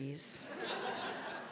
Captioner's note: audience laughing